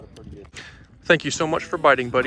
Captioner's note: breath in